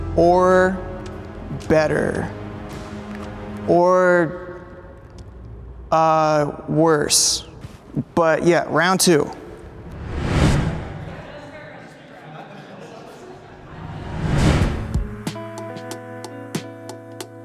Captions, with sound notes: or better, or, worse, but yeah, round two. (dramatic music) (group chattering) (gentle music)